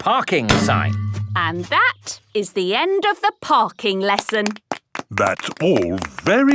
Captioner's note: clapping